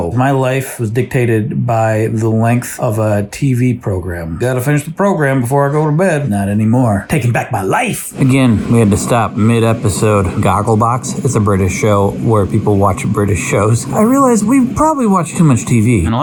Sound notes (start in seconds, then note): 13.8 laughs